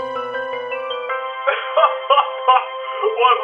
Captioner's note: laughs